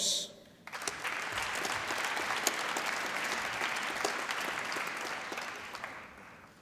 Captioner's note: applause